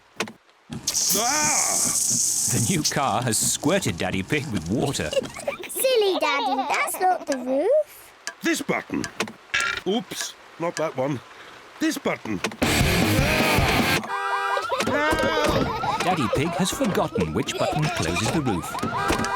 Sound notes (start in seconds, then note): 4.9 both laughing; 12.6 heavy rock music playing; 13.3 alarm blaring